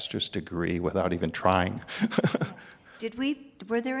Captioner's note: laughs